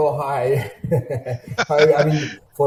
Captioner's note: laughs